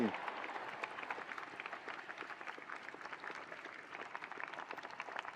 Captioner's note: attendees applauding